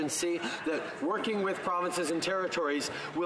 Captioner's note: none